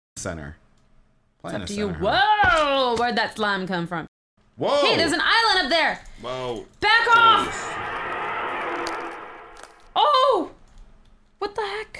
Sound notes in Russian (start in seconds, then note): 7.0 звуки превращения